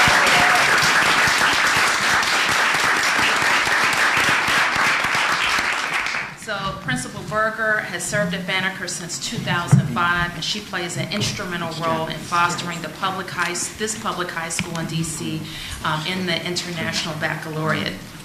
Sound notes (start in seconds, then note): 0.0 applause